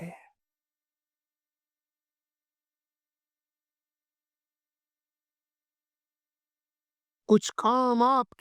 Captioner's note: silence